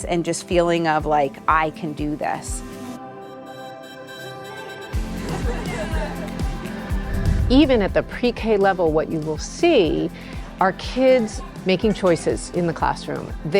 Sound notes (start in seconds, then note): 2.8 lively music continuing; 4.3 laughing